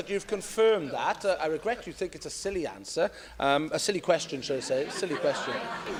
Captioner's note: laughter